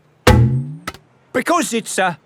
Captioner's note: thunks